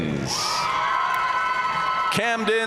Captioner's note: audience cheering and applauding